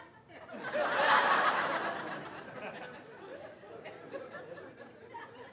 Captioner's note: audience laughs